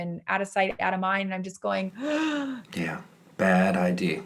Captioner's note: gasp